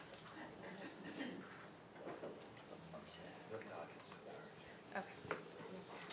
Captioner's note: indistinct conversation